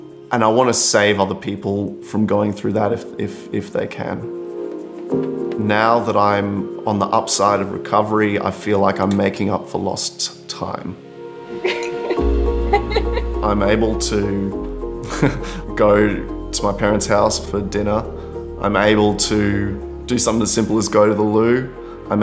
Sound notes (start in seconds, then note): 11.6 laughs; 14.7 chuckles